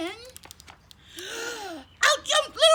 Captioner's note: gasp!